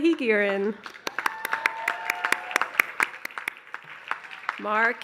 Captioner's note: applause